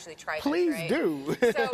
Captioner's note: laughing